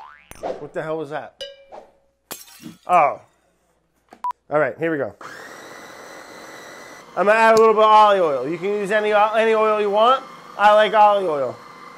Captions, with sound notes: What the hell was that? Oh. All right, here we go. [food processor whirring] I'm gonna add a little bit of olive oil. You can use any oil you want. I like olive oil.